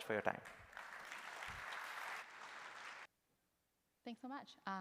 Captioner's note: applause